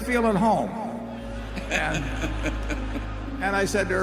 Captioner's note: laughter